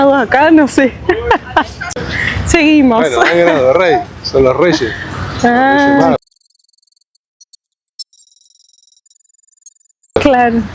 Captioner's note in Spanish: risas